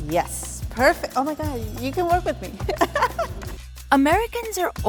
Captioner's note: laughs